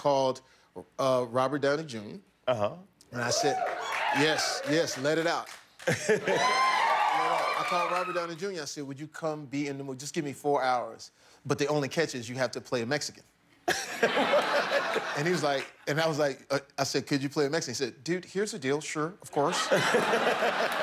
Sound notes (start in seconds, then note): 9.3 cheers and applause; 16.4 laughter